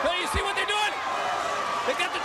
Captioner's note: crowd cheering